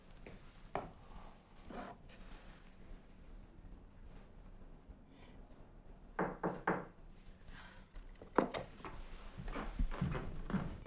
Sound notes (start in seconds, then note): 6.2 knocking